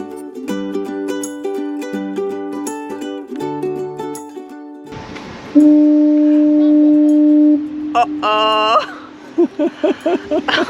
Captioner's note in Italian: Risate